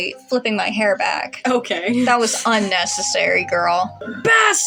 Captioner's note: snicker